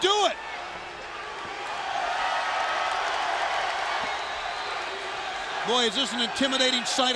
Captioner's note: crowd cheering